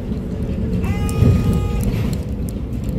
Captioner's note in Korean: 하차벨 소리